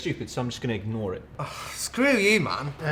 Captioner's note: exasperated sigh